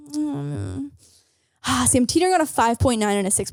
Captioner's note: sighs